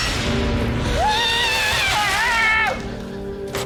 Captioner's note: screams